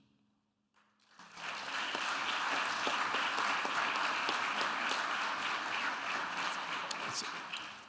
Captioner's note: audience applauding